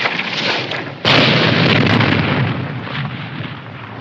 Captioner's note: explosion